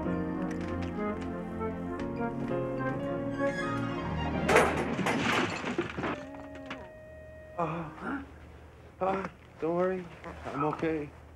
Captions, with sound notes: (clattering) (Reg groans) - Don't worry, I'm okay.